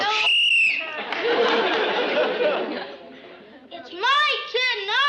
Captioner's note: whistle blows